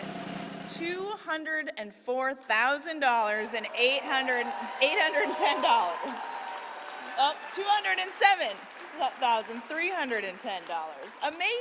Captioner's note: applause